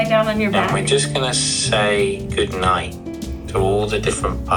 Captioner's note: head Space Voice